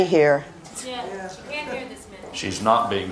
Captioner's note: producers talking